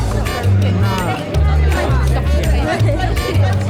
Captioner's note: chatter